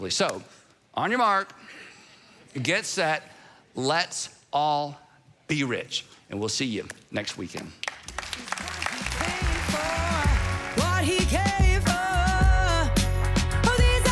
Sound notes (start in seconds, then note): 7.8 congregation applauding